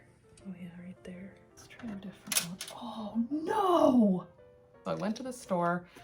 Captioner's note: dropped a screw